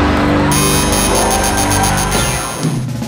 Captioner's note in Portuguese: campainha e aplausos